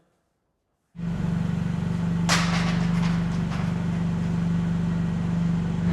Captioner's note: forklift engine running